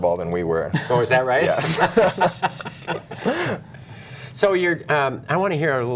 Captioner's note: laughter